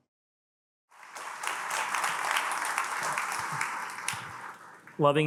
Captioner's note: attendees applaud